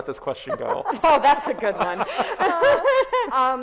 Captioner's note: both laughs